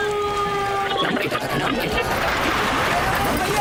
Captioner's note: tuning through radio stations